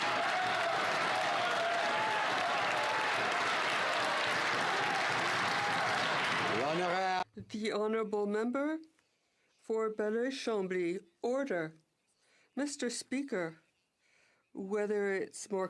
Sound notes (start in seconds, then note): 2.6 some Applause